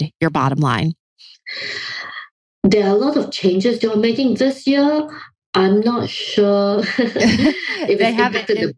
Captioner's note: laughs